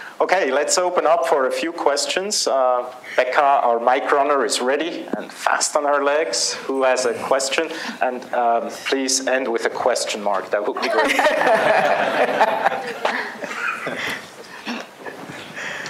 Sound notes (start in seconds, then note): 10.7 laughter